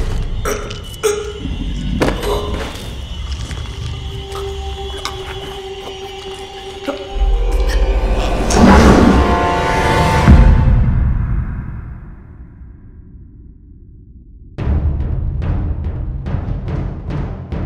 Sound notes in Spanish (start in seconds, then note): 0.2 música intensa; 8.8 gruñendo; 14.9 música intensa